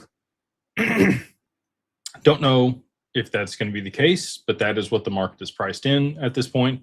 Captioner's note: clears throat